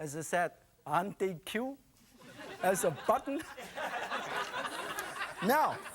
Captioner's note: audience laughing